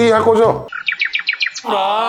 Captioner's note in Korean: 자연의 소리